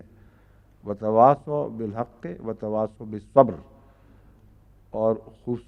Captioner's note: Arabic